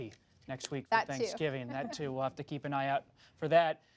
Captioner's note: laughs